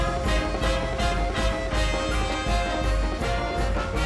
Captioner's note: audience clapping and cheering